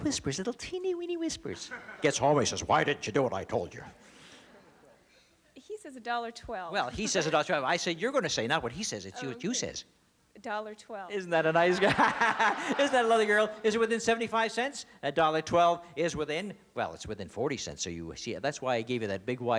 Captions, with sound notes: He says, why didn't you do what I told you? - He says $1.12. - Well, he says $1.12. I said you're going to say, not what he says. It's what you says. - $1.12. - Isn't that a nice girl? (laughter) Isn't that a lovely girl? Is it within $0.75? $1.12 is within-- well, it's within $0.40, so you-- see, that's why I gave you that big, wide margin, so you can have your first dollar. And you're on your way.